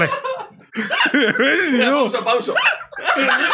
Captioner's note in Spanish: llora de la risa